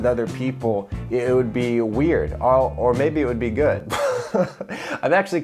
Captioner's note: laughs